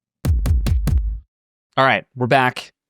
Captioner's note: thumping tones